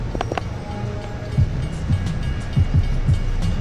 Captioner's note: bell rings